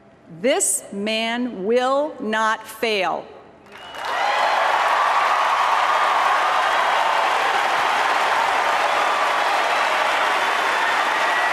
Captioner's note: applause